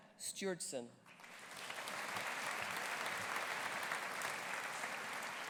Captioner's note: audience applauding